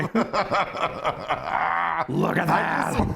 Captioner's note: laughing